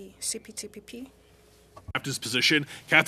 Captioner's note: speaking french